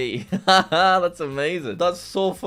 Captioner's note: laughs